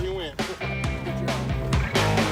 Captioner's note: laugh